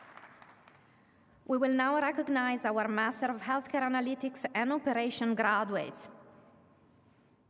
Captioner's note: applause